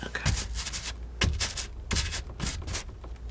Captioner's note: scratching